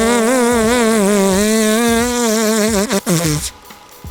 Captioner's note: another long fart sound; tape stops